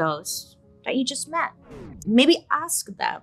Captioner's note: record scratches